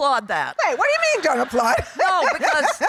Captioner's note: laughing